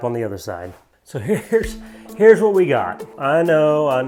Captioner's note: laughs